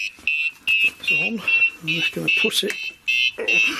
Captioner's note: beeping